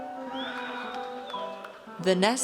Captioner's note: audience cheers